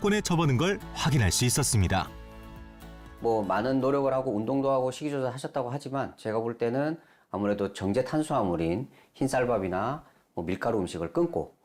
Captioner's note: voiceover